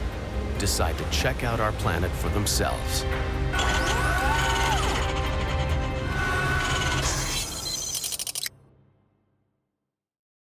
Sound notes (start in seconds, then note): 3.5 robotic whirring; 6.9 audio logo